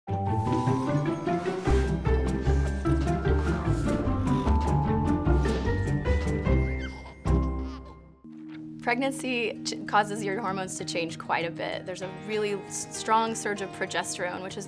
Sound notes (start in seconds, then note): 0.0 playful music; 6.1 baby laughing